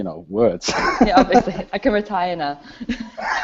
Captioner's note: laughs